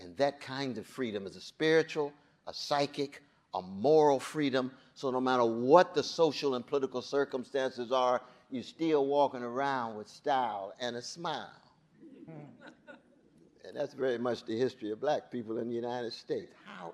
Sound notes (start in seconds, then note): 12.6 audience chuckling